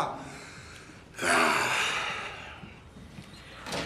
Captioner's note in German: seufzt